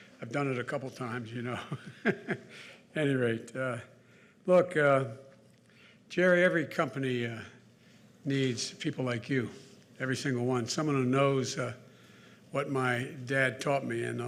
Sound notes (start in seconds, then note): 1.6 laughs